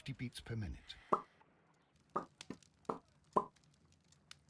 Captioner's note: popping noises